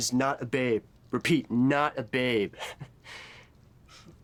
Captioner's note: chuckles